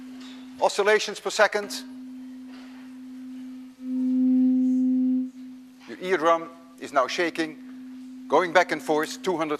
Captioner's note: metal rod emits lower tone